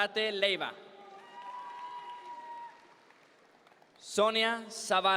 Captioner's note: audience members cheer